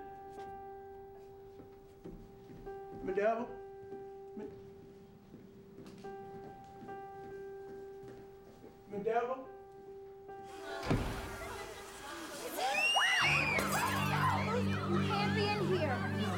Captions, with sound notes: Mrs. Dalrymple? Mrs. Dalrymple? [GIRLS SCREAMING] Radio! You can't be in here.